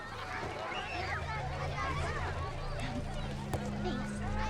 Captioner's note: children chattering; gentle ominous music